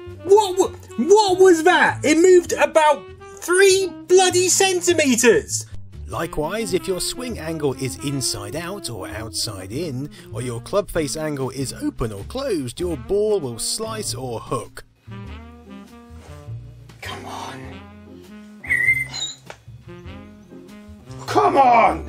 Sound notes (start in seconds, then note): 18.6 bird tweet